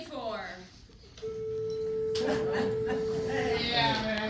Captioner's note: bell rings